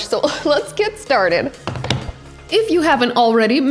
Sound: counter thuds

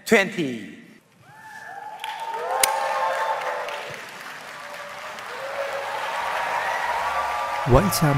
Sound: audience cheering

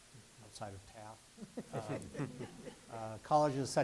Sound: laughter

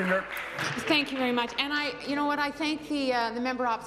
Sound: applause

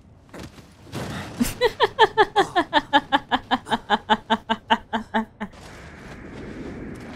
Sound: laughing

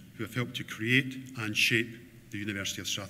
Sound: none

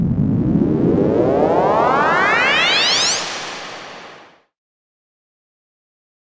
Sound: spaceship sound

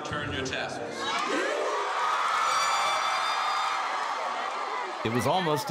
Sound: cheering

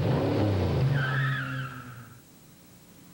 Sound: engine revs; brakes squeal

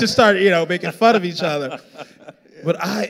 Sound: laughing

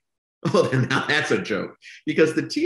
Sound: laughs

